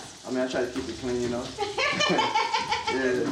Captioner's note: laughing